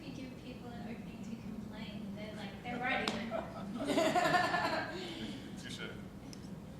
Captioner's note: panel laughing